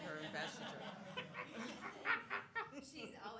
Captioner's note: laughter